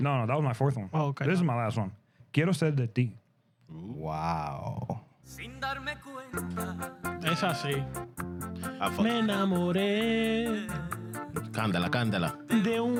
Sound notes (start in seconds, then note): 2.3 speaking Spanish